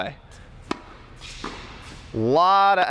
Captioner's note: rackets hit ball